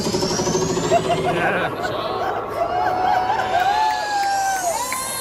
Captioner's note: beat accelerates; laughs